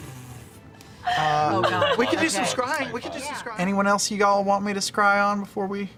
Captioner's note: laugh